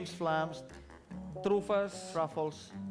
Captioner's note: non-english speech